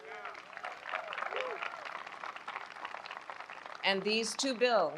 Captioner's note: applause